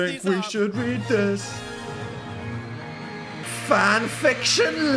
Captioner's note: triumphant music; crowd screaming